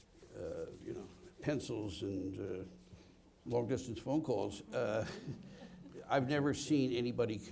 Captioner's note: laughs